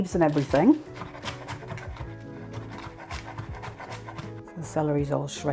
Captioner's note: rapid chopping